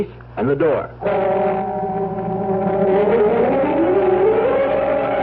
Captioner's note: sirens